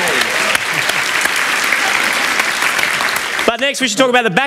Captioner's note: applause